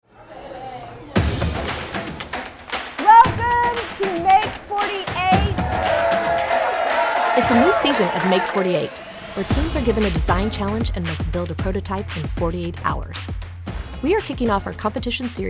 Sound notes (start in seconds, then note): 0.2 people talking; 1.2 upbeat music; 5.5 crowd cheering